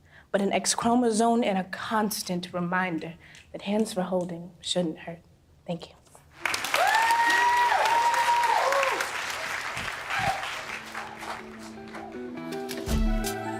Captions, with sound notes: but an X-chromosome and a constant reminder that hands for holding, shouldn't hurt. Thank you. [Loud applause...]